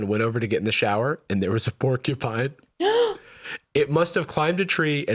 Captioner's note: gasps